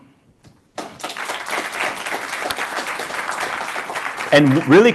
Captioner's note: applause